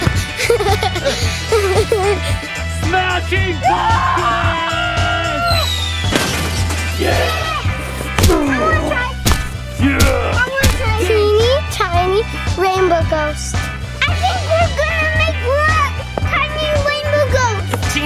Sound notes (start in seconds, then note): 0.0 giggling; 3.7 screaming; 5.5 whistle whirring; 5.6 pumpkin thudding; 9.2 feet thudding